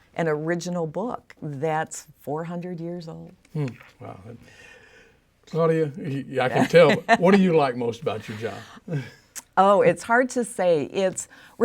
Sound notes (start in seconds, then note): 6.5 laughing